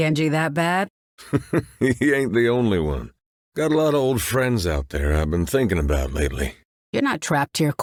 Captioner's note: chuckle